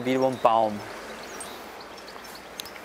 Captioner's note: birds chirping